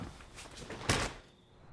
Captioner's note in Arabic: يُغلق الباب